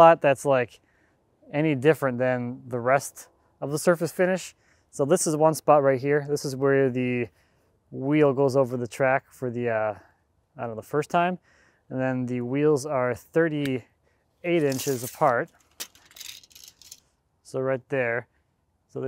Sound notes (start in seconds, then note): none